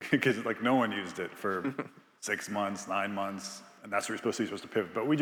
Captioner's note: Biz chuckles